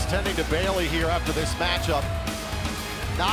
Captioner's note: crowd cheering